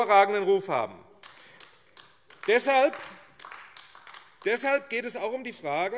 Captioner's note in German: Beifall AfD